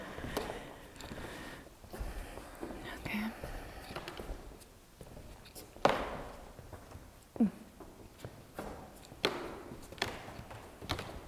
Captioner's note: footsteps in the background